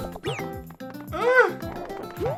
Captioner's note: squeals